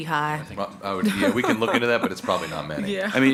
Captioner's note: laughing